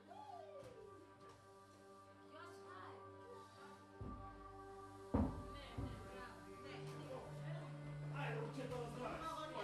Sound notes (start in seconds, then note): 6.1 scolding in Greek; 8.1 replies in Bulgarian